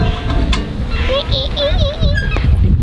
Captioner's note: squeaking sounds